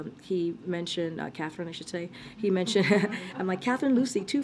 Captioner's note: laughs